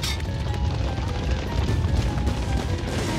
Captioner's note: galloping